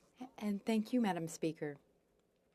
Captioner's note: speaking french